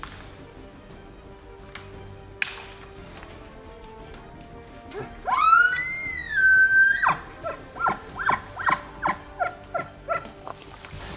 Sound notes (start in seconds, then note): 2.4 branch breaks; 4.9 elk cries out